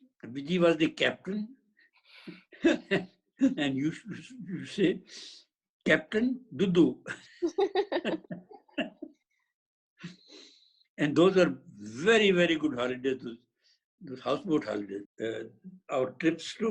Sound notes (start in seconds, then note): 7.0 both laughing